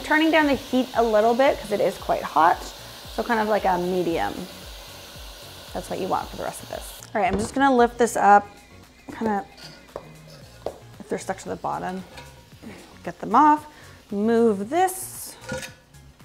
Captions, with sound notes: I'm turning down the heat a little bit cause it is quite hot. So, kind of like a medium. That's what you want for the rest of this. All right. I'm just going to lift this up, kind of, (scrapes pan) if they're stuck to the bottom, get them off, move this,